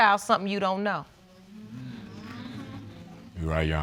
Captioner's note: audience concurring